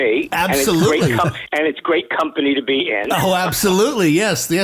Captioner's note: laughter